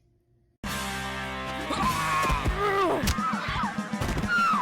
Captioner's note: rock music; screaming